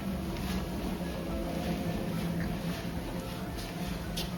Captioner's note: machinery humming